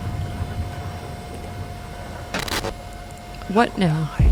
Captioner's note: computer glitches